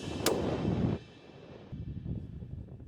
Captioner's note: gunshot